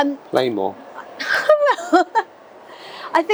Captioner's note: laughs